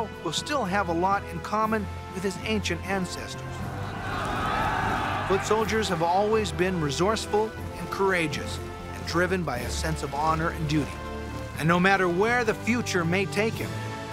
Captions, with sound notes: will still have a lot in common with his ancient ancestors. [shouting] Foot soldiers have always been resourceful and courageous, and driven by a sense of honor and duty. And no matter where the future may take him,